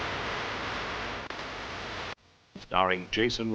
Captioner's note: gunshots